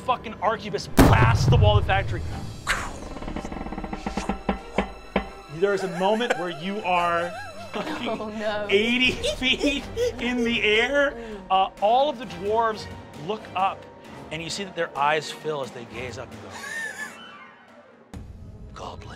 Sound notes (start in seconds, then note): 2.2 creaking; 3.1 mimics whooshing